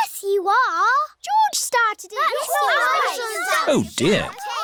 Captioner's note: all arguing